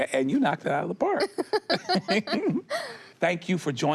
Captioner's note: both laugh